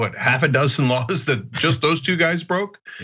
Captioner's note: laugh